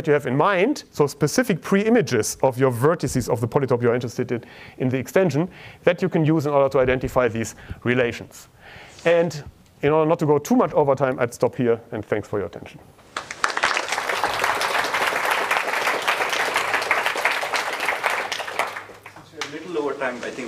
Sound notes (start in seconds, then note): 15.8 applause